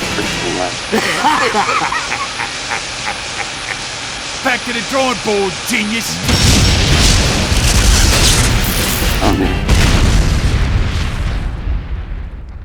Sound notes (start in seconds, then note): 0.9 laughs